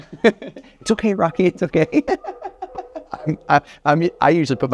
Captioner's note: laughs